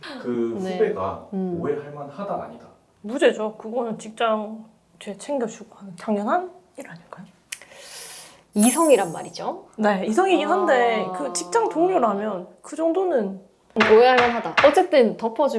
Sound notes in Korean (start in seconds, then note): 8.5 콧방귀